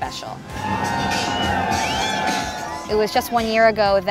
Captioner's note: parade noise